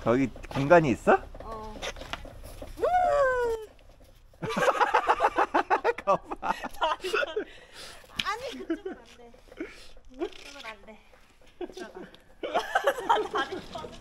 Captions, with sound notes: is there room? yup yoo hoo ~ [Laughs] No, not that way, not that way go in